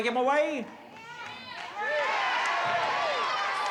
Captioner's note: crowd shouting